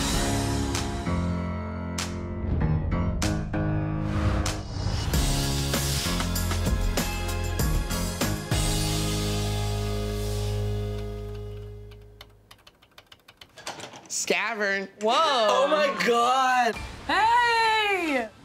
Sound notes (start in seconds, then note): 0.1 dramatic music; 10.9 keyboard clicking